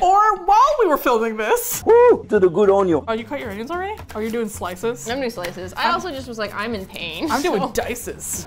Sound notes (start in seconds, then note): 0.0 groans; 1.3 disembodied voice; 7.2 laughs